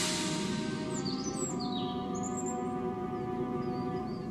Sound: birds chirping

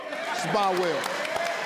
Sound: crowd cheering

